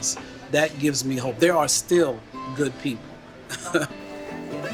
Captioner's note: laughs; upbeat music